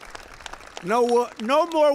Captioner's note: applause